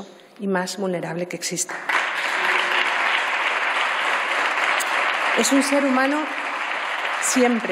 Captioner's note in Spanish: Aplausos